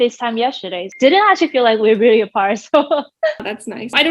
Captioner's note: laughing